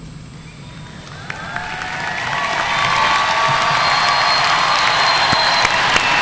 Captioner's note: audience cheering and applauding